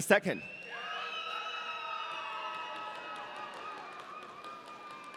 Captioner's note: audience cheering